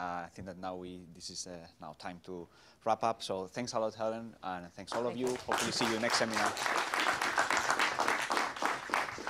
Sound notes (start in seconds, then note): 6.8 applause